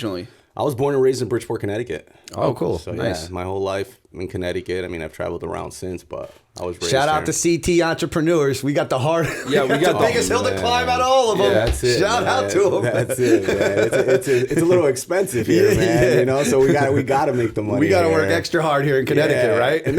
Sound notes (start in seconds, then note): 10.5 chuckle; 15.3 laughter